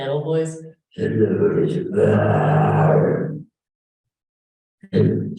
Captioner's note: deep voice